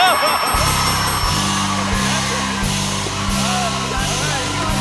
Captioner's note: cheers and applause